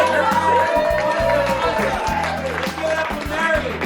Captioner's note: cheering, applause